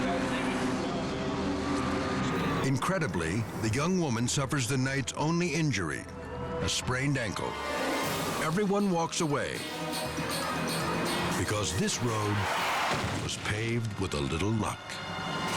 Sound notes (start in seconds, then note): 11.7 tires skidding